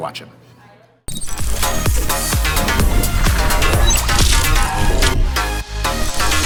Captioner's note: upbeat music; cross-fade whooshes; upbeat music plays out